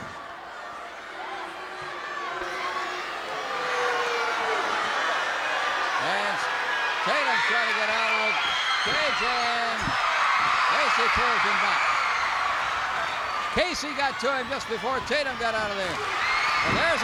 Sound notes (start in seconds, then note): 1.5 crowd boos; 9.3 crowd cheers